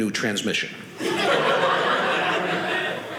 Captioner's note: audience laughing